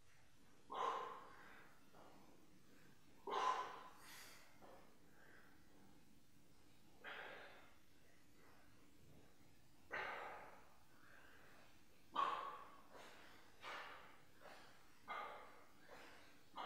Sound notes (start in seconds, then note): 0.1 exhaling; 11.7 breathing